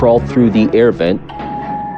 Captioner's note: alarm blblaring